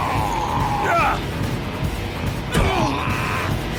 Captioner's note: both grunting